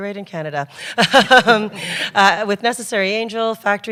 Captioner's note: laughter